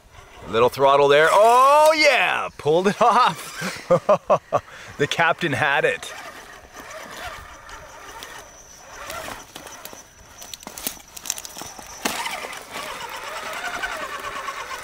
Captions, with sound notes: A little throttle there, oh yeah. Pulled it off. (laughs) The Captain had it. (truck noise) (road noise)